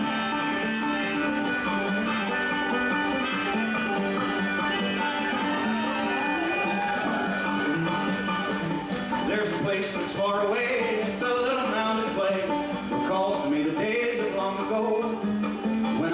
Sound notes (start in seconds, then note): 6.0 audience cheers